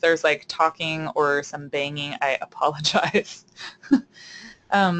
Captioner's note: laughter